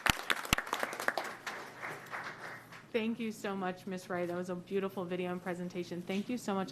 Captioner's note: applause